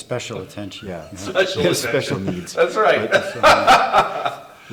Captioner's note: laughs